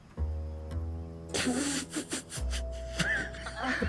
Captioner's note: laughing